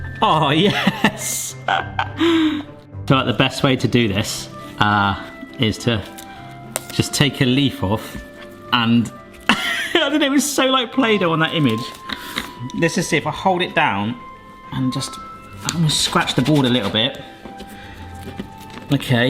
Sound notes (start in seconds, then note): 1.5 laughs; 9.4 laughs